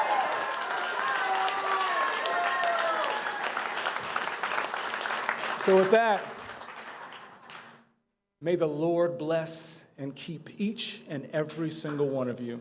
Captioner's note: cheers and applause